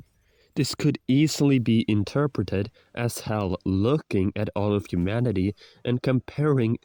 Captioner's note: inhale